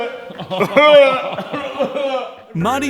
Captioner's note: gagging and coughing